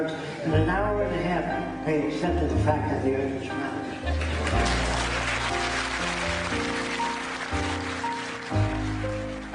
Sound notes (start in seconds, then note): 4.0 applause